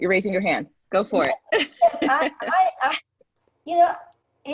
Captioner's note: laughs